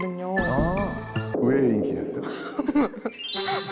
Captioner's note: innocent sound effect